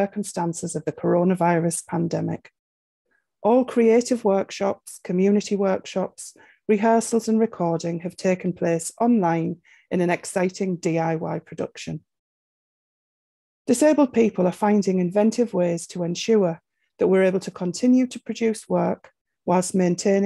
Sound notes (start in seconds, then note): none